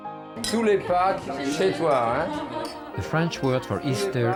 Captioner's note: speaking foreign language